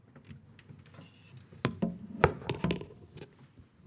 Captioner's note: object clattering